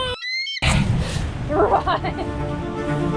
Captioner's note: laughing